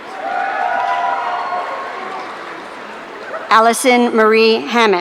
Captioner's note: audience cheering